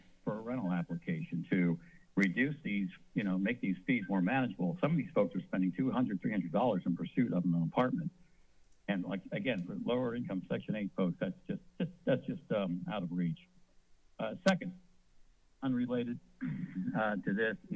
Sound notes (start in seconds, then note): 12.3 laughs; 16.4 clearing throat